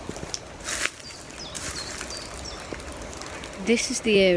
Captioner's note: birds chirping